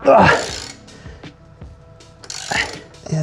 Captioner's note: sighing